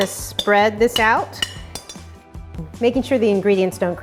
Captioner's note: sharp clanging